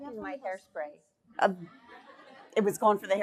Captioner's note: laughing